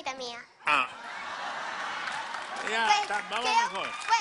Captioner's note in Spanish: risas